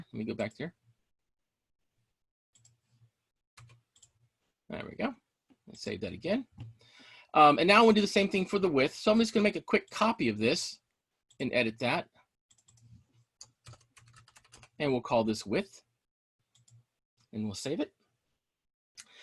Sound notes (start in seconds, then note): 3.6 keyboard clicking; 13.4 keyboard clicking